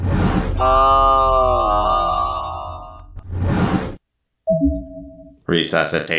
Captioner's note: screams